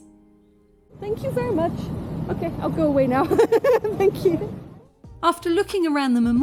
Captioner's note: laughing